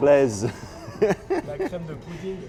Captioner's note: laughter